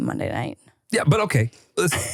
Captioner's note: laughs